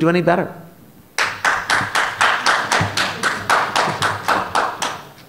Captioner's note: applause